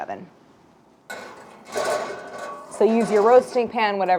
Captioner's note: utensil clanking